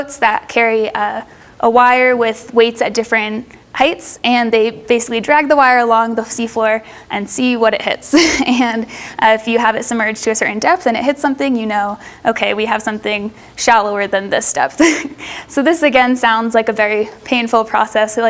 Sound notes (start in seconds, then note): 8.1 laughs